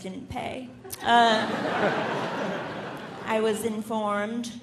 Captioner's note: audience laughing